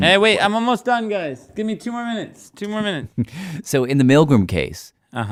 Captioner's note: laughs